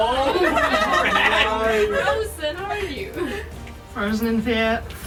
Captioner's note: all gasp and laugh